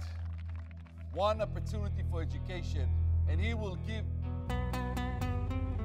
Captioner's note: cheers & Applause